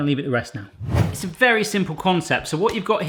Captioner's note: whooshing